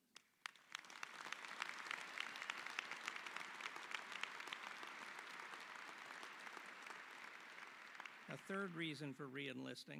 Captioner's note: applause